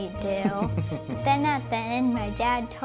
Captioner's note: laughing